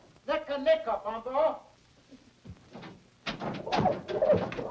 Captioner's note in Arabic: يتحدث بلغة أجنبية; يئن